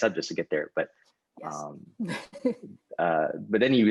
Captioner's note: laughs